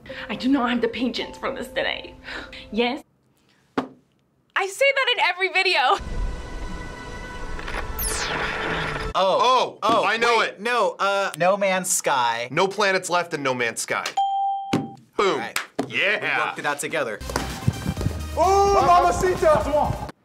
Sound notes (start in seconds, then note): 7.9 gadgets whirring; 14.2 ding